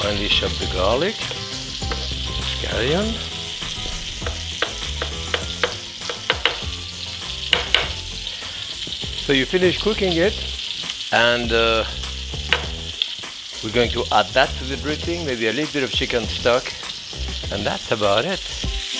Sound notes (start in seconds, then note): 4.4 thumping; 18.8 pan sizzling